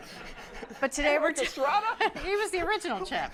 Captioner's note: laughter